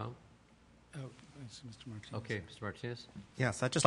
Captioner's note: multiple voices speaking